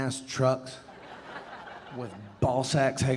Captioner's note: audience laughing